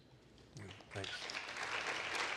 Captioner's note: applause